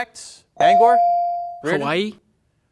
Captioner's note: bell dings